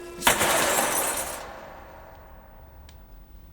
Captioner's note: cutlery clatters